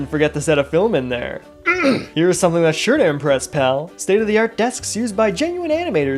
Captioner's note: ahem